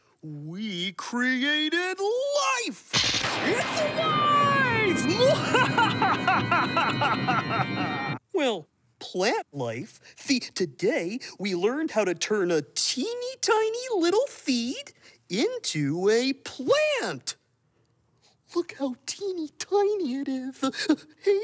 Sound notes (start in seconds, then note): 2.9 thunder crashing; 4.7 laughing maniacally